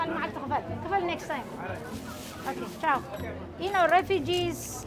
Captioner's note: speaking foreign language